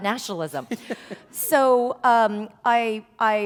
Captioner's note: laughter